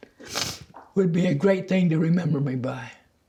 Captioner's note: none